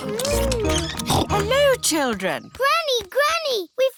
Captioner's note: snorts